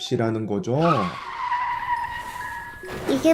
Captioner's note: screeeech—!